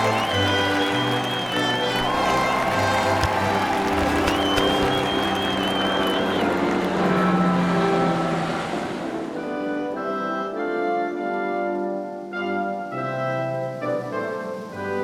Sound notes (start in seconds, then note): 0.0 🎼 Patriotic Music🎵; 0.0 👏 Cheers😮; 4.2 🚁 Helicopter; 10.2 🎼 Patriotic Music🎵; 10.2 👏 Cheers😮